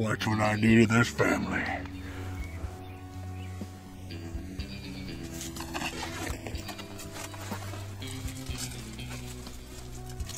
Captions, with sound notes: Watch what I do to this family. (leaves rustling on ground)